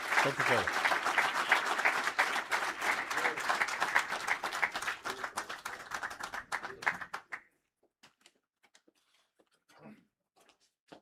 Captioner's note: applause